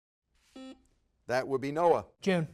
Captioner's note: buzzer beeps